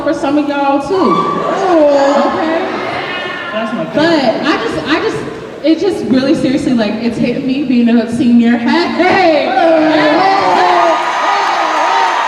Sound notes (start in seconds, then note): 1.0 cheering; 9.4 cheering